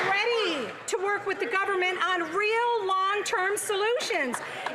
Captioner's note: some Applause